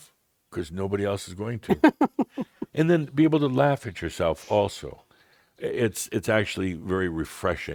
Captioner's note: chuckles